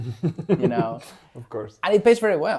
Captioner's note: laughs